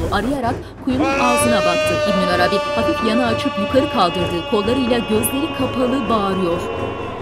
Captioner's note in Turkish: Bağırma sesleri